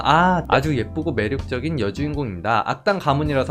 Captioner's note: voiceover